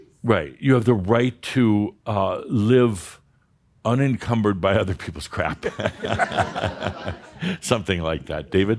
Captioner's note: laughter